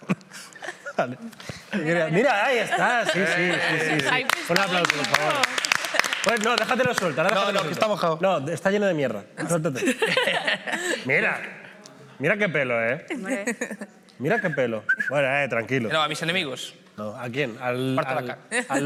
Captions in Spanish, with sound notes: Mira, ahí estás, ¡Sí, sí, sí! (Aplausos) No, déjatelo suelto. No, que está mojado. No, está lleno de mierda. (TODOS RÍEN) Mira qué pelo, eh. Mira qué pelo. Bueno, tranquilo. No, a mis enemigos. ¿A quién? ¿Al lobby degradado?